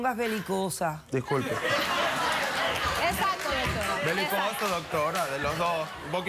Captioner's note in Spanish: Risas